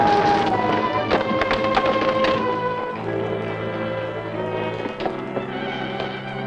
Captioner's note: pensive music continues; wind howling